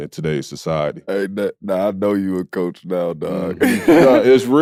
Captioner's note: laughs